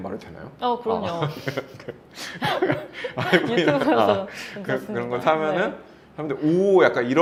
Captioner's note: laughs